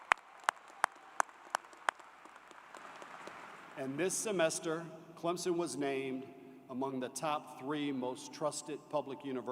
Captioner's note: applause